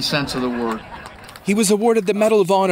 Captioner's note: audience chuckling